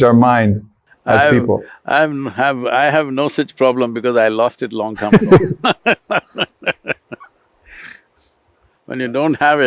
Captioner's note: laughs